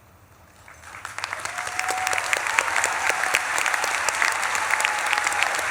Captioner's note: audience claps and cheers